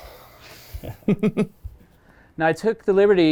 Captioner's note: Joey laughing